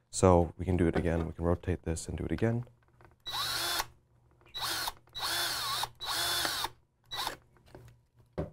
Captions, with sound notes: So we can do it again. Rotate this and do it again. (drill whirring)